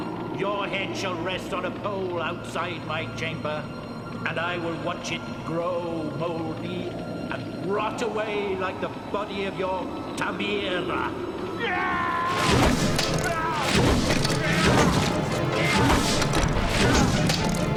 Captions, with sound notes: Your head shall rest on a pole outside my chamber. And I will watch it grow moldy. Rot away like the body of your Tamira. - (yelling) (wooden thuds)